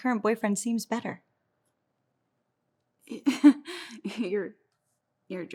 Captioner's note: Julia chuckles